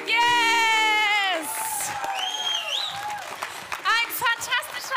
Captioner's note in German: Jubel und Applaus